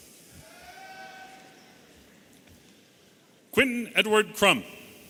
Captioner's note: audience cheering